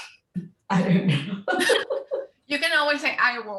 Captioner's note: everyone laughing